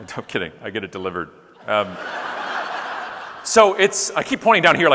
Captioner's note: audience laughing